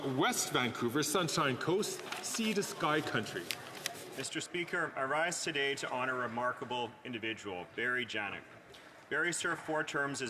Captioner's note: speaking French